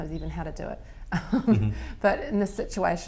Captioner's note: laughter